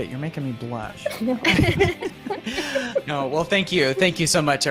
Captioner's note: laughs